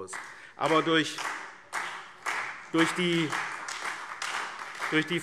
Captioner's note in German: Beifall SPD und Freie Demokraten